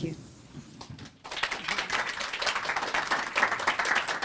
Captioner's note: applause